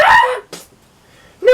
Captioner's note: splat